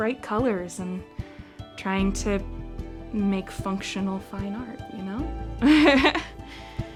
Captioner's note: chuckles